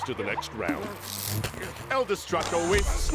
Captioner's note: electronic crackle